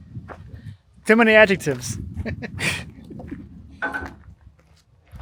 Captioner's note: laughs